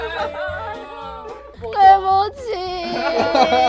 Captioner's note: lots of crying